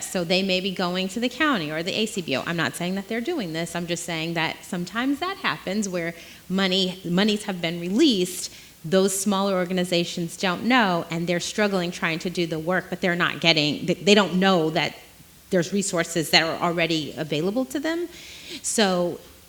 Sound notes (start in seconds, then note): none